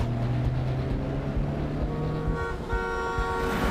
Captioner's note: horn blaring